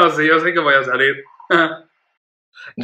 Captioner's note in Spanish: ríe